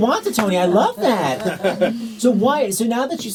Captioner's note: audience laughs